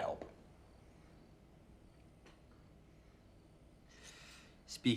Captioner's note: crickets chirping